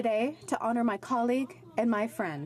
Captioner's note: speaking French